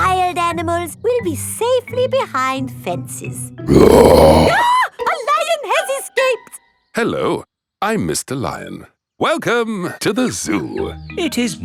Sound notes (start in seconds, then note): 3.6 roars; 3.7 screams